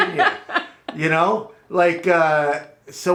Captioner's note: laughs